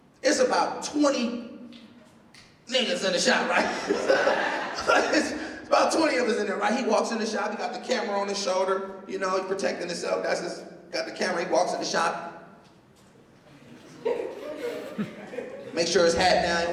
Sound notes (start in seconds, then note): 3.3 laughs; 13.4 laughter